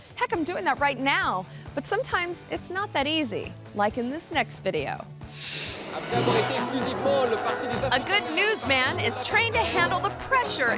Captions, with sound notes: Heck, I'm doing that right now, but sometimes it's not that easy. Like in this next video. (screen swooshes) (news reporter speaks in foreign language) A good newsman is trained to handle the pressure